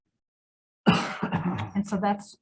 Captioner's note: member coughs